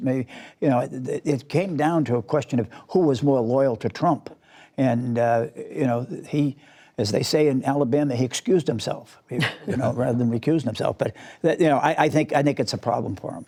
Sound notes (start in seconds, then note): 10.8 laughter